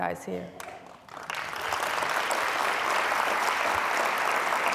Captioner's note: applause